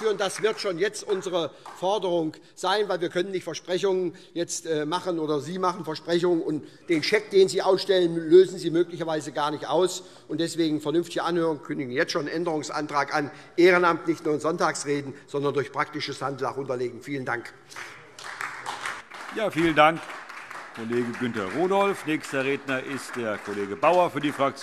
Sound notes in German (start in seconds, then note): 17.7 Beifall SPD